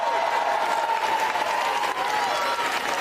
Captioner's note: cheers and applause